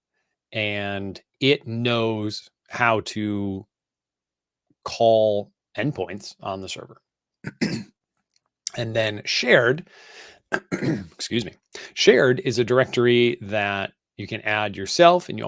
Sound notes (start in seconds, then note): 10.5 clears throat